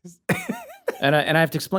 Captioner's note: laughter